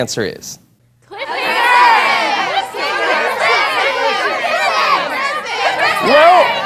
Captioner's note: jumbled shouting